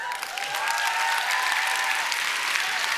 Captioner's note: applause